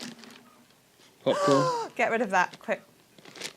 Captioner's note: gasps